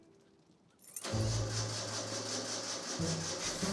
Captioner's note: ignition failing